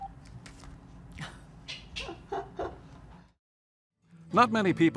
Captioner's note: laughs